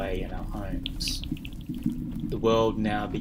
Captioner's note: soft clacking